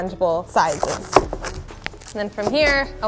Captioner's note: chops